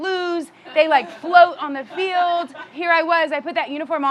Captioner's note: audience members chuckling